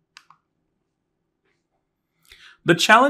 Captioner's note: remote clicking